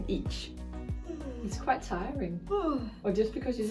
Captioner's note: yawn